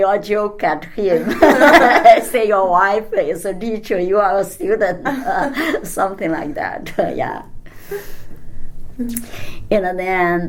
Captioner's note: all laugh